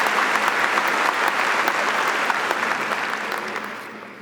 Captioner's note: audience applauding